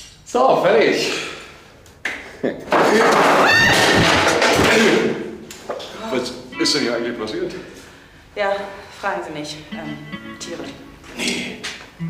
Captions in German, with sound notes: So, fertig. (Sie schreit.) Was ist denn hier eigentlich passiert? Fragen Sie lieber nicht. Tiere...